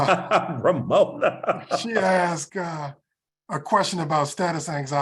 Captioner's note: laugh